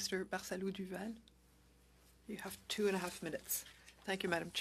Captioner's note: speaking French